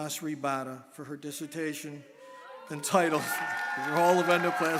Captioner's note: audience cheering